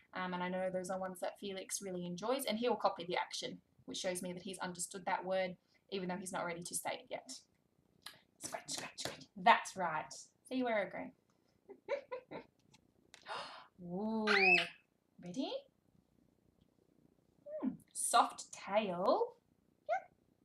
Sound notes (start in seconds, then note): 11.7 laughs; 14.3 squeaks